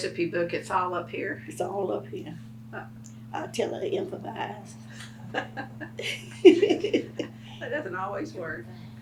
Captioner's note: laughs